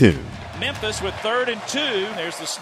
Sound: voiceover

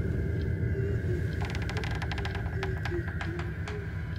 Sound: door Creaks Open

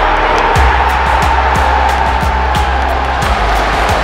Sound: cheering

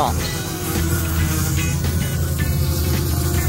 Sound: drone engine

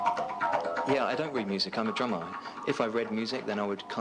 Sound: electronic music; voiceover

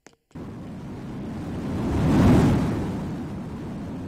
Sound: whooooooOOOOOOOOOOOSSHhhhh

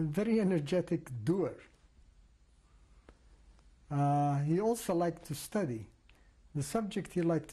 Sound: pauses for 3 seconds

